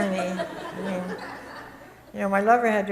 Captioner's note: audience chuckles